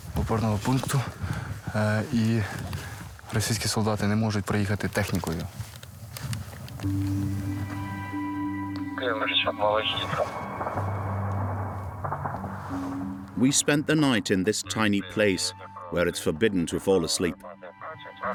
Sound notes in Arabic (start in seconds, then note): 9.0 الصوت المنطوق الأوكراني